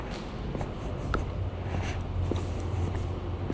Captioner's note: footsteps